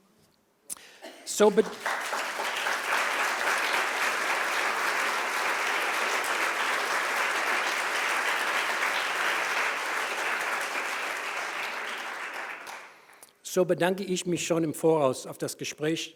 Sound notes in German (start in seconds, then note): 1.3 Applaus